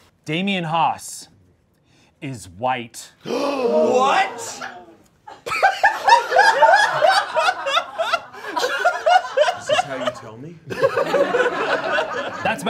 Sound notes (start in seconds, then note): 3.4 all gasping; 5.2 all laughing